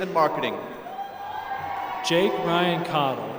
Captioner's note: applause